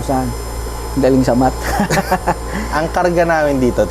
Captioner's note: laughs